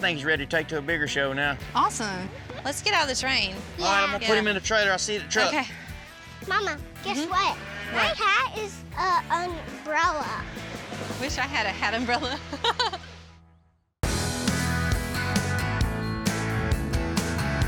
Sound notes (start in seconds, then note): 12.2 laughs